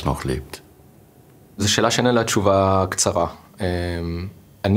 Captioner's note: Hebrew